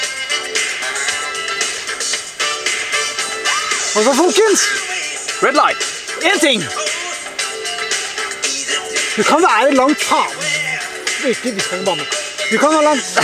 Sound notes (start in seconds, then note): 10.0 swearing